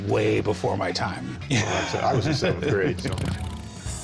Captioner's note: laughs